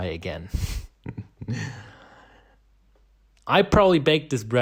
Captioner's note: chuckling